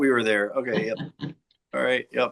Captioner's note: chuckling